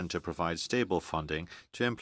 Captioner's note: speaking French